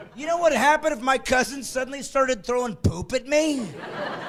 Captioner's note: laughing